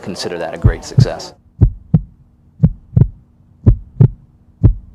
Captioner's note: heart beating